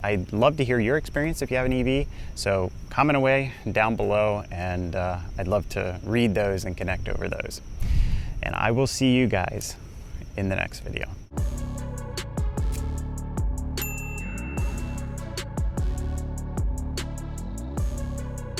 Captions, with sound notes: I'd love to hear your experience if you have an EV, so comment away down below, and I'd love to read those and connect over those. I will see you guys in the next video. (dramatic synthwave music) (bell dings)